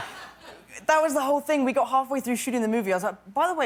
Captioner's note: laughter